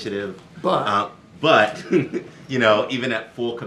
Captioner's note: laughs